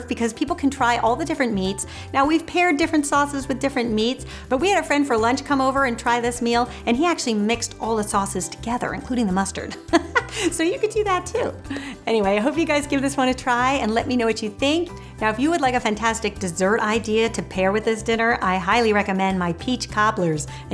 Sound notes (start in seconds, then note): 9.8 laughs